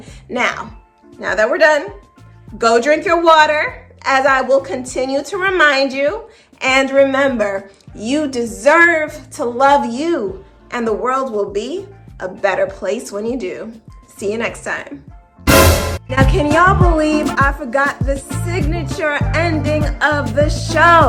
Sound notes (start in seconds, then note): 15.4 dramatic sound